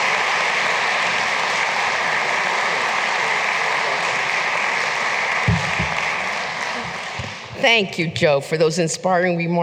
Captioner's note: applause